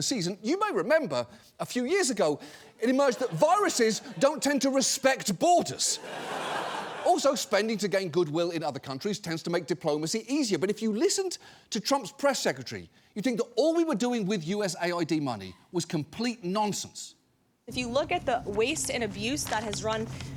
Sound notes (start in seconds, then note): 5.7 audience laughing